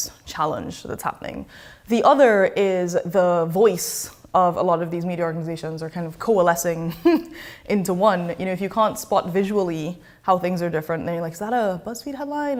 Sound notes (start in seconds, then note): 6.9 chuckles